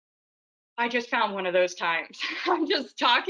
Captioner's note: laughs